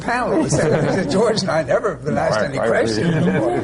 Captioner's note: laugh